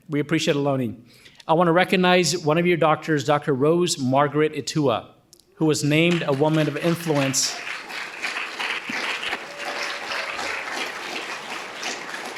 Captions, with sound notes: We appreciate Ohlone. I wanna recognize one of your doctors, Dr. Rose-Margaret Itua who was named a Woman of Influence. (audience applauding)